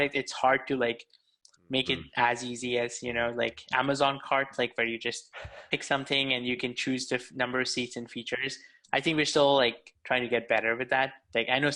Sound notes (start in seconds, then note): 5.3 laughing